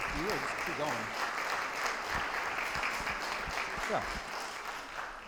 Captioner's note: audience applauding